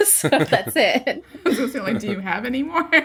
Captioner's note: laughter